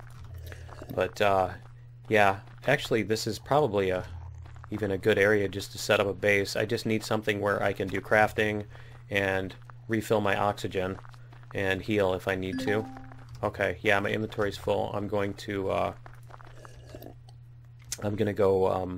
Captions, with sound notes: [sips coffee] Actually this is probably a Even a good area just to set up a base. I just need something where I can do crafting And refill my oxygen and heal if I need to. [ding] okay. My inventory is full. [sips coffee] I'm going to go